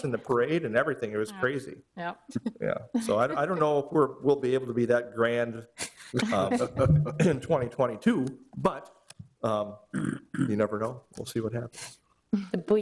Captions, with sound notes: and the parade and everything, it was crazy. Yep. (laughs) Yeah, so I don't know if we'll be able to be that grand in 2022, but you never know, we'll see what happens.